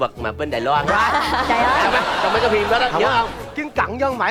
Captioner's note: laughing